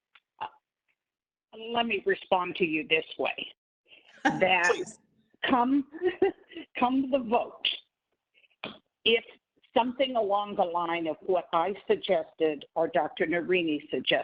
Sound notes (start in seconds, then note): 4.2 laughing